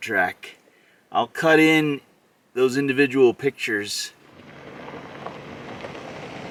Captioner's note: gravel crunching